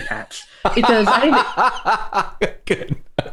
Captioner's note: laughing